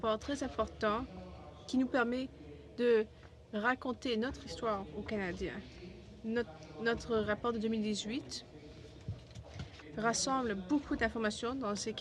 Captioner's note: speaking french